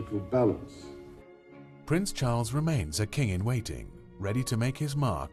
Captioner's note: voiceover